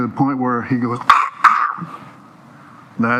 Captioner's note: choking sounds